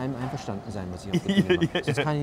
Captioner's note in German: lacht